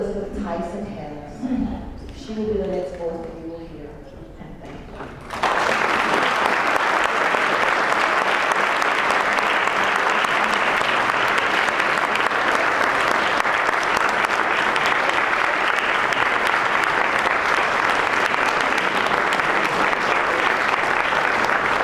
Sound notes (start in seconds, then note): 3.9 applause